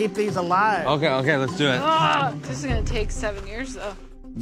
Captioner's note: groans